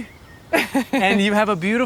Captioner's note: Gwyneth chuckling